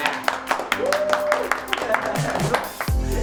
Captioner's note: applause